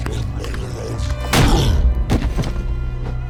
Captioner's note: cyclops grunts